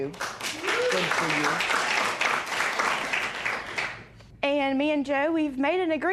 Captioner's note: cheers and applause